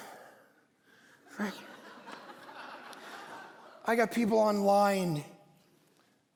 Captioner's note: congregation laughing